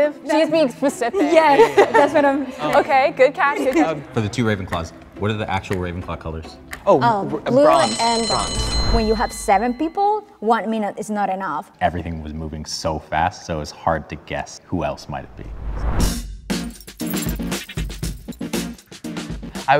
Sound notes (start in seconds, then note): 7.5 bell rings; 16.0 upbeat funk music plays